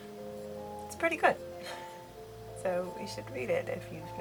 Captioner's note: laughs